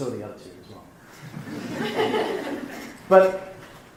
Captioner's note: laughing